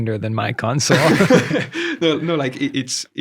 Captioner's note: laughs